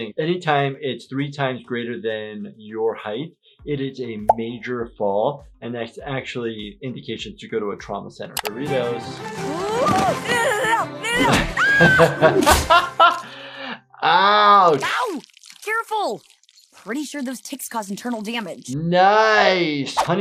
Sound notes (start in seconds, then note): 10.3 Anne grunting; 11.1 Anne screams, Jordan laughs; 14.6 honey squelching